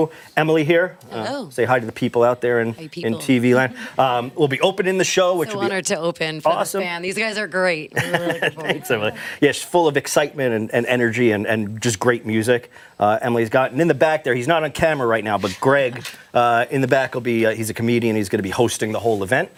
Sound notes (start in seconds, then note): 13.3 laughter